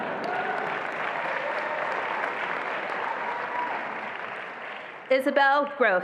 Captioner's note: attendees laughing; attendees applauding and cheering